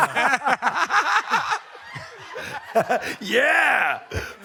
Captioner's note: laughter